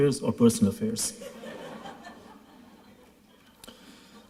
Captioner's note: laughter